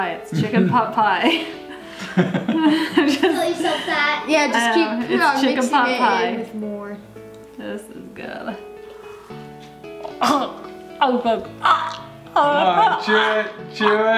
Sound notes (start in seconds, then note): 1.9 laughing; 11.3 gagging